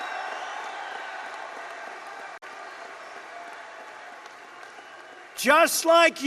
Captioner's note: applause